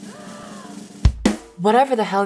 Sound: gasping

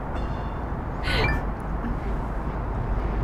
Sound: Cell phone notification sound

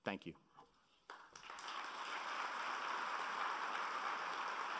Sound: applauding

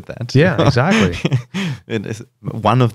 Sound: laughter

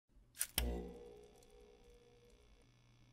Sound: monitor turns on

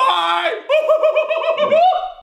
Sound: screaming

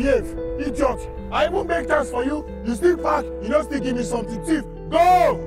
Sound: screaming in foreign language

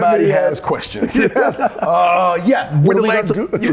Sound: both laugh

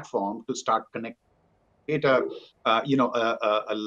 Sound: microphone cuts out

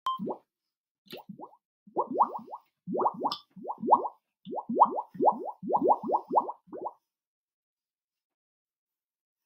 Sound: bubble Sounds

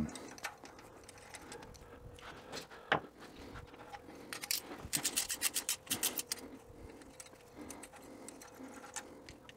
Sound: ratchet Noises

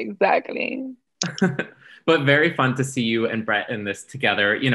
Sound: chuckles

